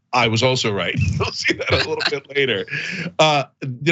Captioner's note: laugh